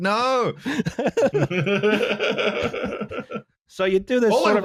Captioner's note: laughter